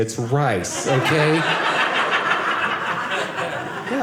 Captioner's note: audience laughing